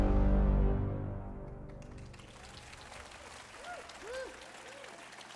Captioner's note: applause